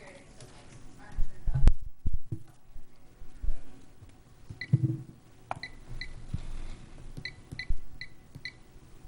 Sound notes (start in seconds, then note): 5.6 device beeping